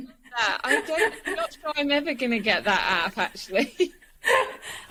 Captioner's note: laughs; laughs